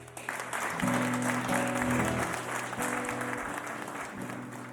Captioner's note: audience applauds